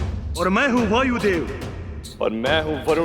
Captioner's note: none